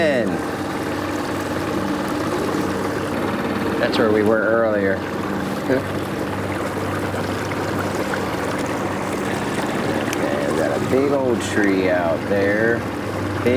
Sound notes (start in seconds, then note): 0.9 motor puttering; 7.8 water splashing